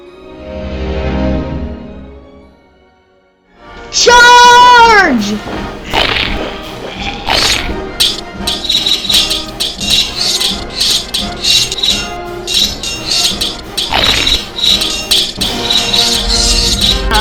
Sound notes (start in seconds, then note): 5.8 Crunch; 6.5 groaning; 6.9 sword slash, crunch; 7.8 swords and spears clanging; 12.4 crunch, swords and spears clanging; 14.4 swords and spears clanging